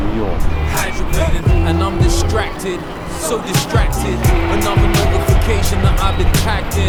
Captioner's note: people chattering; upbeat hip hop music